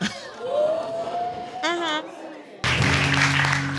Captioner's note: audience exclaiming